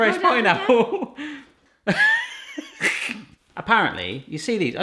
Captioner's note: laughing